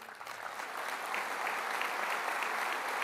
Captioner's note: applause